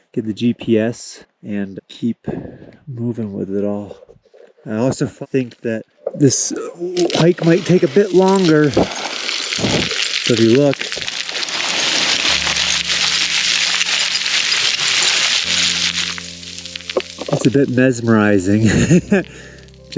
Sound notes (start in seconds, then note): 8.6 gravel rattling; 11.7 gravel rattling; 18.6 laughs